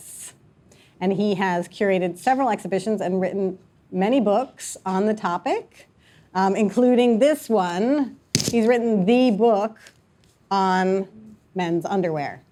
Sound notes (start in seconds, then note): none